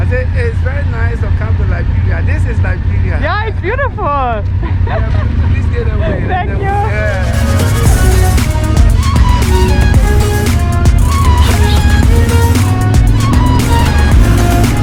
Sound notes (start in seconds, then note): 4.4 laughs; 5.6 faintly speaking; 6.7 upbeat music